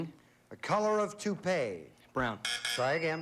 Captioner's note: buzz buzz